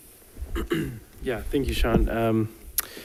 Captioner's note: clears throat